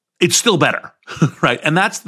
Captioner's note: laugh